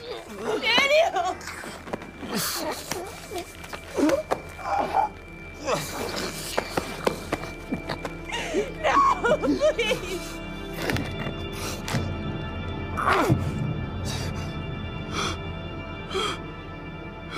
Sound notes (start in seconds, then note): 2.3 groans; 15.5 daniel gasping